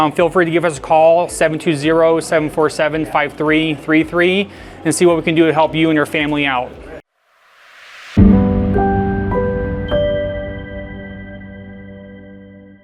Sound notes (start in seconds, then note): 7.5 airy music; 7.7 graphics swishing